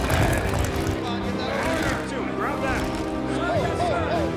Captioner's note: soldiers shouting